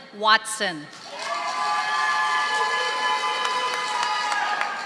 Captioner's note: audience applauding